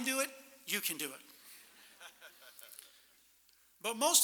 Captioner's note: laughter